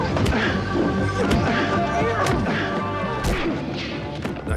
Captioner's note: thuds of punches landing